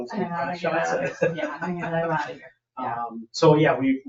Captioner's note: people chuckle